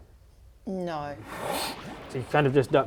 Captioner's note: whoosh